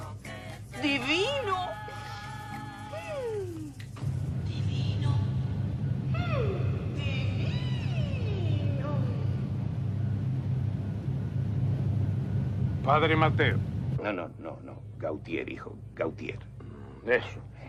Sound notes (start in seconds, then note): 6.1 dreamily